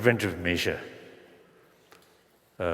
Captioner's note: foreign Language